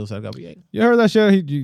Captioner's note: speaking In Foreign Language